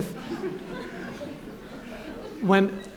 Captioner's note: laughter